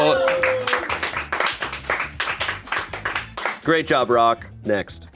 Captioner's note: crew applauds